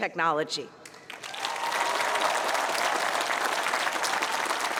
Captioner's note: cheering